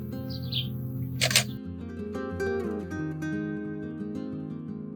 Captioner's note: camera clicking